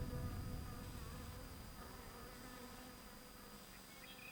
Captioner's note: bee buzzing